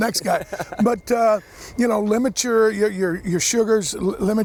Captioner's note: laughs